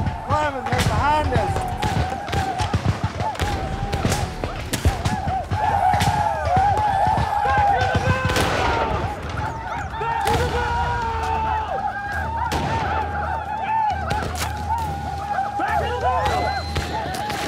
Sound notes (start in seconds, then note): 2.0 gunshots; 5.7 arikara war cries; 12.4 arikara war cries